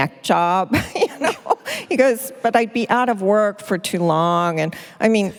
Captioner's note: laughs